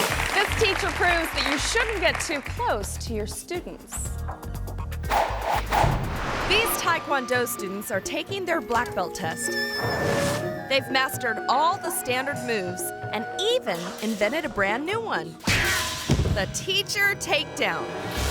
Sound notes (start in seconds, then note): 0.0 audience cheering; 4.2 bright music; 16.0 body thuds; 16.0 foot thuds